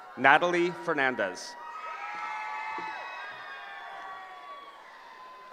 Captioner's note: cheering